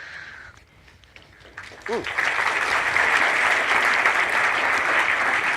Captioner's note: applause